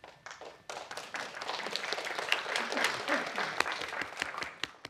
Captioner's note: applause